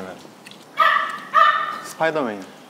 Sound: woof

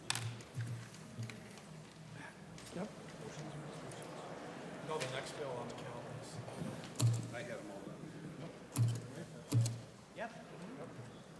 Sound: gavel

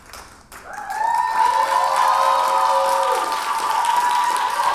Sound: audience applauding

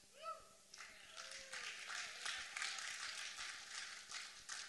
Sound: applause

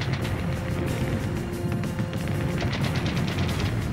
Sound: explosions; rapid gunfire

